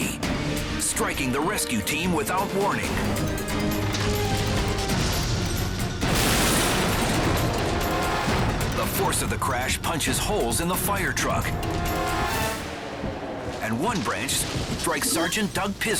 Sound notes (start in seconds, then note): 2.9 firetruck clashes; 4.0 tree rumbles